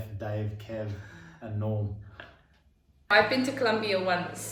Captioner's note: chuckles